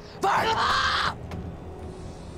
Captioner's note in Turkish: Haykırarak